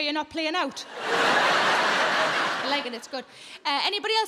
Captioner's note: audience laughs